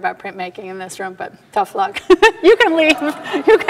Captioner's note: laughing